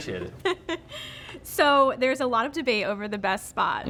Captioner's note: laughing